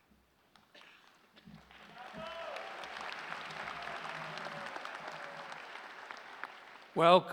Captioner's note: applause